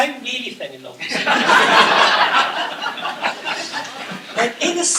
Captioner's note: laughter